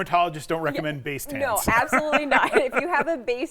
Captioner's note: laughs